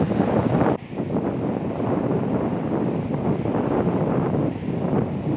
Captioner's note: wind blowing